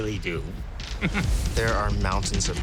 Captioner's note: chuckles